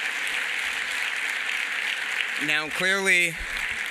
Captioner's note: applause